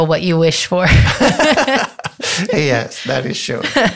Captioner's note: both laughing